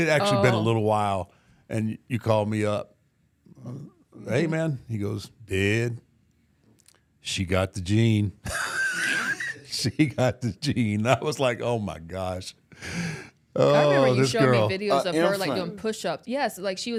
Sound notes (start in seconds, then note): 8.4 laughs